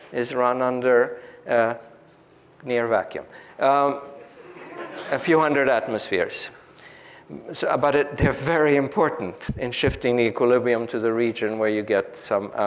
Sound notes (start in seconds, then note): 4.2 group laughs